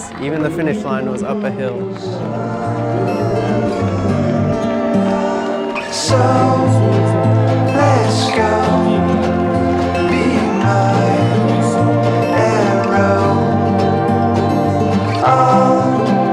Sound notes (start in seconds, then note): 2.2 crowd cheering